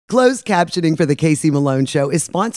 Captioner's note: voiceover